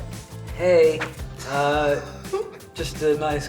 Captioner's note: laughs